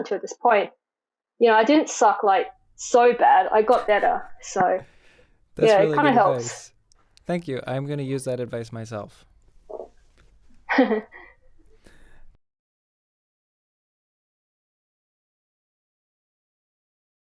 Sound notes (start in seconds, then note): 5.6 chuckles; 10.7 laughs